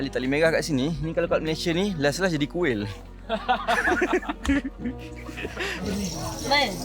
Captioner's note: laugh